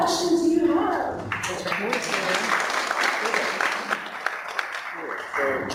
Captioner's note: clapping